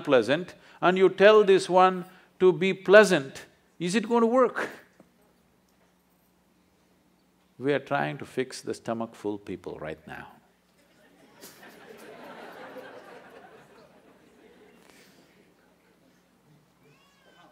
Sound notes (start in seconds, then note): 10.9 laughter